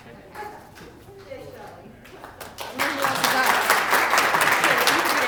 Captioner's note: applause